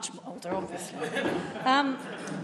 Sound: laughter

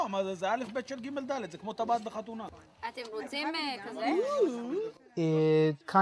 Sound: family speak foreign language

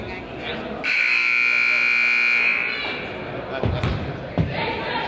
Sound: buzzer honks

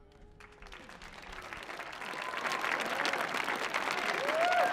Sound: audience cheering

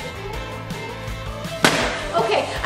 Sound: bottle thuds

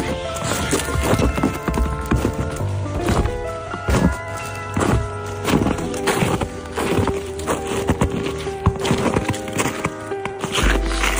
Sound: footsteps

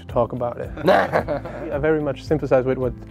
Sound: laughter

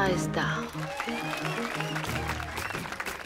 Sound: applause

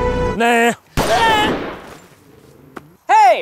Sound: gunshot

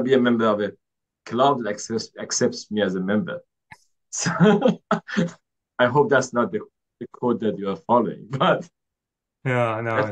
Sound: laughs

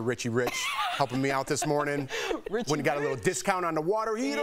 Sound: laughter

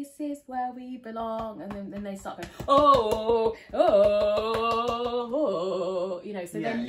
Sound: singing; beats chest and wails

